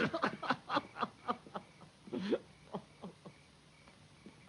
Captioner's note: risas